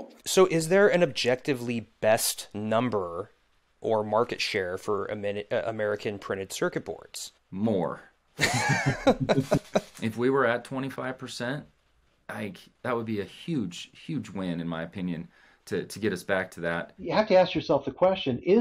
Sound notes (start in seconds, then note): 8.4 both laughing